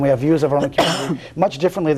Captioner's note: coughs